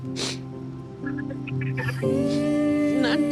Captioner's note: sniffs; Static